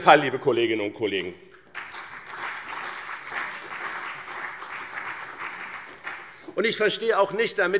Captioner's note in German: Beifall BÜNDNIS 90/DIE GRÜNEN